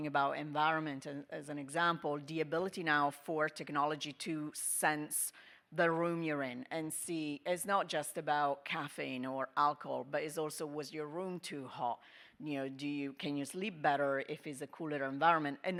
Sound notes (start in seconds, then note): none